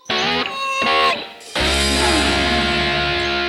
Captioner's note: muffled screaming